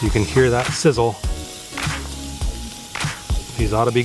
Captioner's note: sizzling